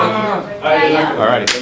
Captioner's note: people talking; clap